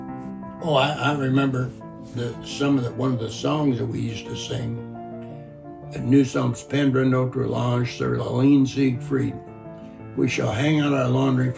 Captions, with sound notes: Oh, I remember that one of the songs that we used to sing (speaking in French). "We shall hang out our laundry